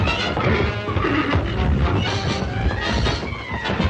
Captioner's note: horses grunting